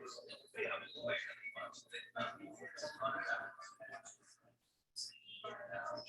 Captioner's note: people chattering indistinctly continues